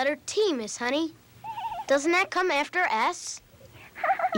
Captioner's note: giggling